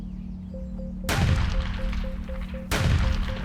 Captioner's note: gunshots